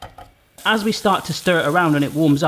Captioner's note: sizzling